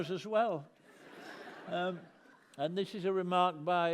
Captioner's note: laughter